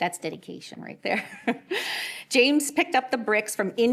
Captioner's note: laughter